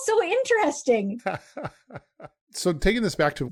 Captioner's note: laughing